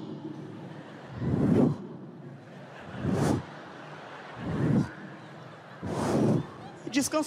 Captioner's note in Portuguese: barulho de pena voando